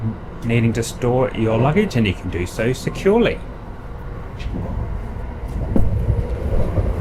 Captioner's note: train noises